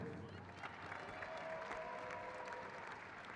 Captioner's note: crowd claps